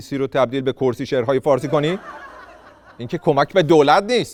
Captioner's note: laughter